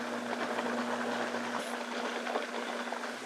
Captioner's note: blender whirs